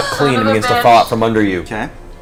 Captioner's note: gasps